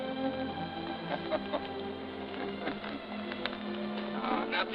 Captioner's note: gentle music; Jim chuckling